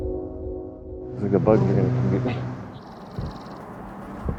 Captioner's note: train horn; buzzing